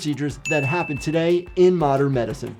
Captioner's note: bell dinging